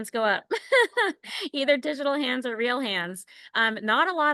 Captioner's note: laughter